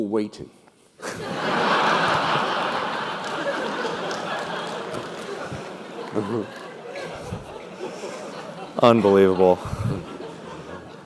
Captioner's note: laugh